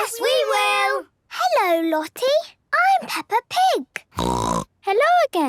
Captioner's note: snorting